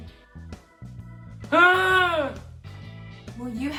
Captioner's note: awful wail